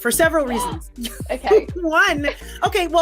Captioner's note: gasps